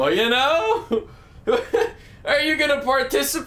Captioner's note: laughs